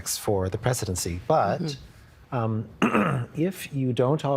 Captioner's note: clearing throat